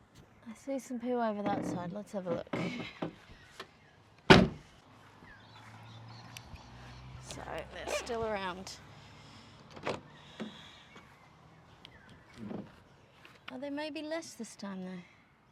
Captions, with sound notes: I see some poo over that side. Let's have a look. [van door slams] So, they're still around. Are there may be less this time, though?